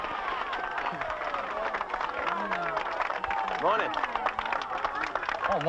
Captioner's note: audience applauding